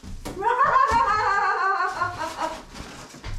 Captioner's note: laughing